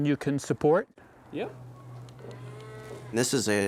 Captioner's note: cows mooing